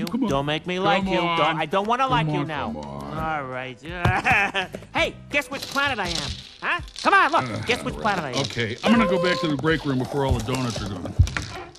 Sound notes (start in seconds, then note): 4.0 chuckles; 7.4 sighs